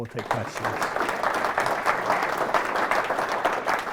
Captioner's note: audience applauds